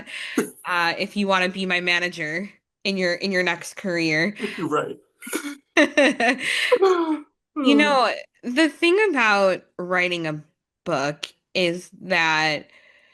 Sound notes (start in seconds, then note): 5.3 laughs